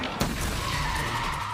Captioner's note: gunshots